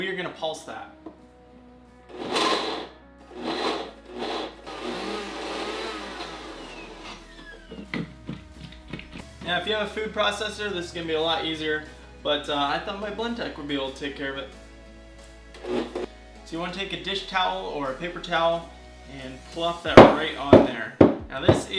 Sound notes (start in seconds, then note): 3.3 whirring